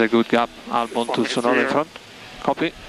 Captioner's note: tyres